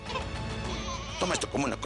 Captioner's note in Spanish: Llanto de la bebé